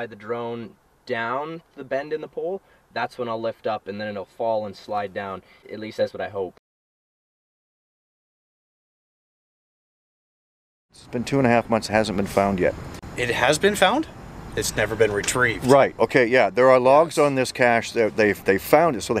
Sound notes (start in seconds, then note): none